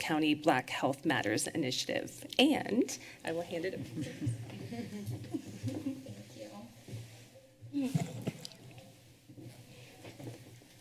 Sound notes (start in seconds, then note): 3.8 laughter and footsteps